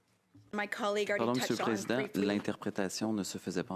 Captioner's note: speaking French